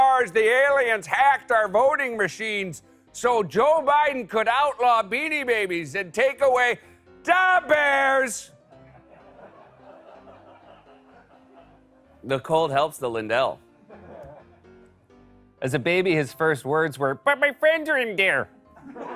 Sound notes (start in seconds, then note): 8.5 normal voice; 8.8 laughter; 13.9 light laughter; 18.7 laughter; 18.9 normal voice